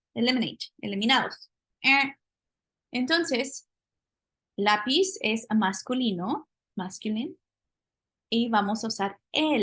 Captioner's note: spanish; speaking spanish